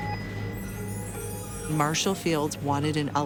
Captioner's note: bell dings